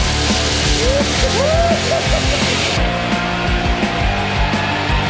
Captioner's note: screaming in distance